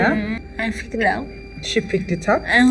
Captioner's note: speaking English